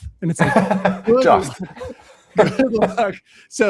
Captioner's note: laughing